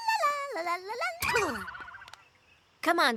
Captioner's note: boing!